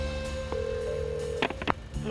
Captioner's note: phone ringing